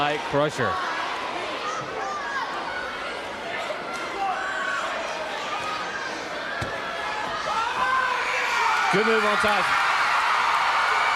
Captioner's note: crowd chatter